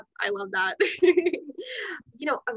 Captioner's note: laughter